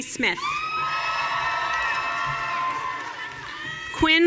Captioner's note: audience cheering